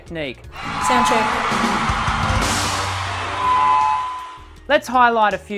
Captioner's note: audience screaming